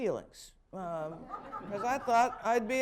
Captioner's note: laughter